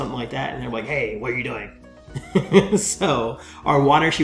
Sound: laughs

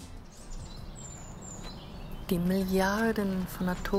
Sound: birds chirping; woman speaking in foreign language

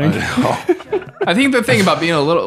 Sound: laughing

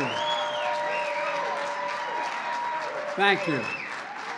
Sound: applause

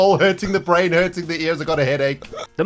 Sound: laughs

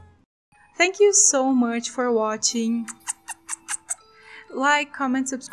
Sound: kiss noises

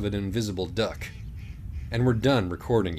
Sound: faint quacking sounds

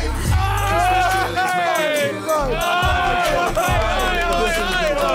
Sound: Sidemen applauding

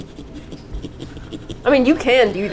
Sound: aggressive sawing

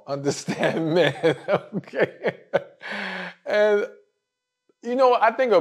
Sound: laugh

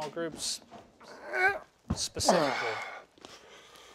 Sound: Mr. Riley grunts

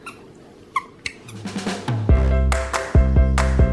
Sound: squeaky toy

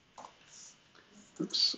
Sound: computer keyboard clicking

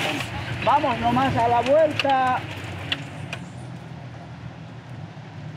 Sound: speaking in foreign language

